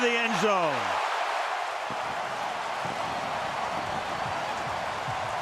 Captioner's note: cheering